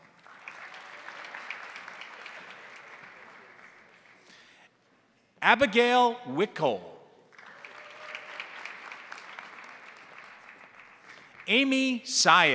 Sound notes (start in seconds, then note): 0.0 crowd applauding; 7.3 crowd applauding; 7.4 crowd cheering